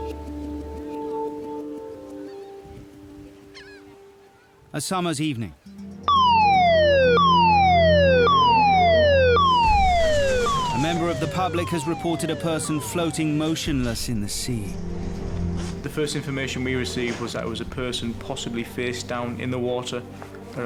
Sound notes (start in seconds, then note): 0.0 mellow orchestral music; 6.0 siren blaring loudly